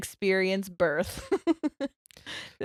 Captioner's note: laughing